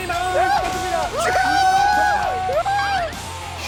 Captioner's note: hurray